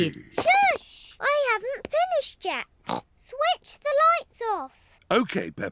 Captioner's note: snorts